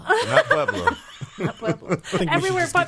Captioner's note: laughing